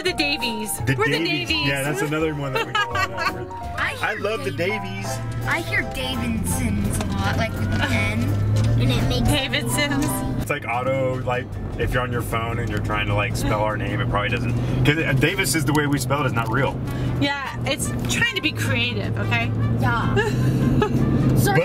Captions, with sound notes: - Or the Davies. We're the Davies. - Yeah, that's another one that we get a lot of. (laughing) I love the Davies! - I hear Davensons a lot, like with an N. - Davensons? - It's like auto, if you're on your phone and you're trying to spell our name, it probably doesn't... 'Cause Davises the way we spell it is not real. - Yeah, it's trying to be creative, okay?